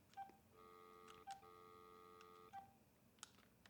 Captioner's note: phone beeping